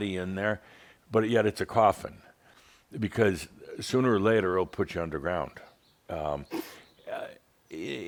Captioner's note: snorts